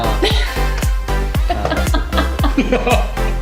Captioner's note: laughter